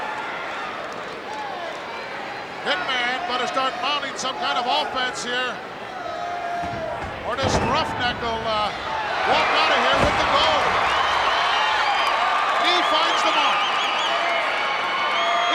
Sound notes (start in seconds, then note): 10.6 crowd cheering